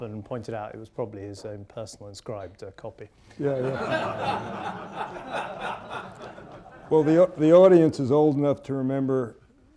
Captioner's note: laughter